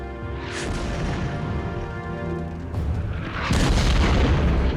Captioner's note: shells exploding